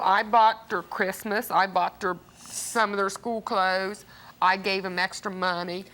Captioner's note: none